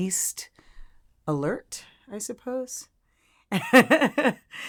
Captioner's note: laughs